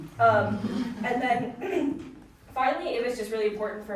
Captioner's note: audience chuckling; clears throat